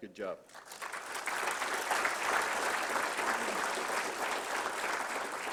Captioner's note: applause